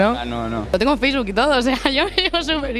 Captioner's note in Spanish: risas